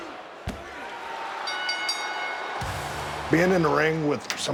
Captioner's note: ring bell sounding